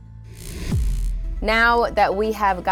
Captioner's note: neon sign buzzes